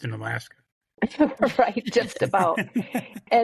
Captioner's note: laughing